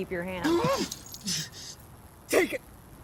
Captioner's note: whimper